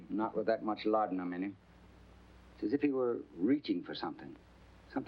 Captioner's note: none